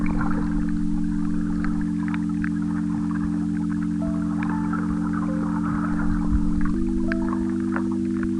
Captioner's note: wind blowing